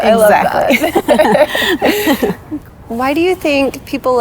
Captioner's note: both giggling